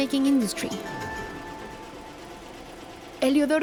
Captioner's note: sewing machine chattering